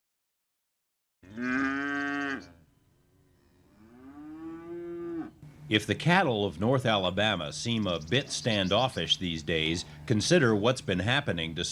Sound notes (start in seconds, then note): 1.2 mooing